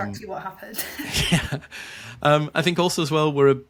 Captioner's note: chuckles